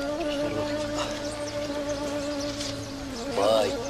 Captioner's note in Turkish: Kuş cıvıltısı sesi